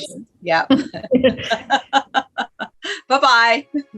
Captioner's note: laughs